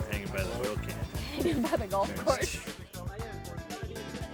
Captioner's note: laughing